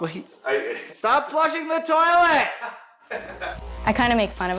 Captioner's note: people laughing